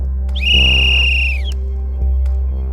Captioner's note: whistle blows